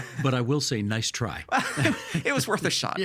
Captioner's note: both laughing